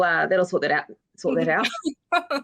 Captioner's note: woman laughing